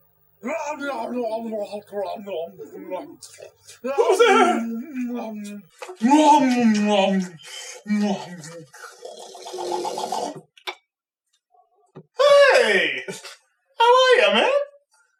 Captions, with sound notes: [Loud eating sound] Who's there? [Ravenous eating sound] Hey! How are ya, man?